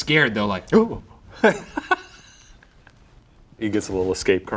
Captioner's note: laughing